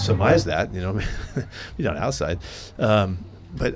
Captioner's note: chuckles; laughs